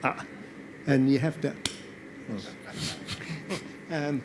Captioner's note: slaps; audience laughs